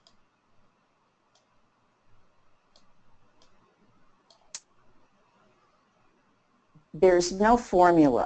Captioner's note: silence